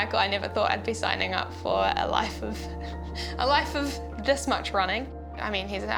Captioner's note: chuckles